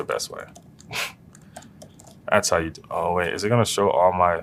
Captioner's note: laugh